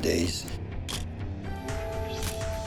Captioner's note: camera shutter click